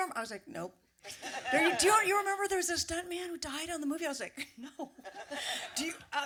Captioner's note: laughter